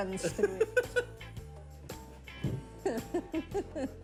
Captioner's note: Jerry laughs